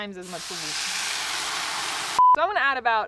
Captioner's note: water sizzling